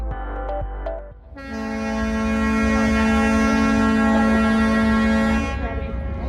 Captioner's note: ships horn